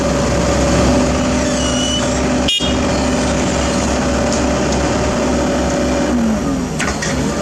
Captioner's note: engine